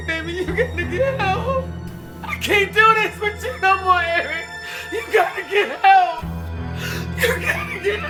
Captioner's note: crying